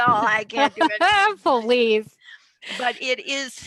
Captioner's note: laughs